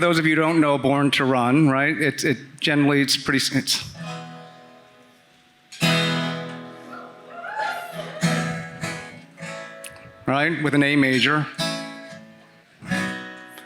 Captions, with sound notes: who don't know "Born to Run," right? (guitar sounding) (audience cheering) Right, with an A major.